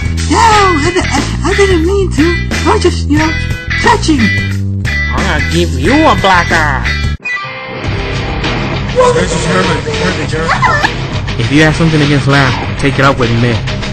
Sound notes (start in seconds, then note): 1.8 stutter; 9.4 people awwing whispering